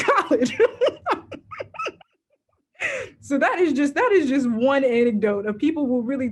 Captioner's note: laughs